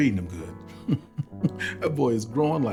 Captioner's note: laughing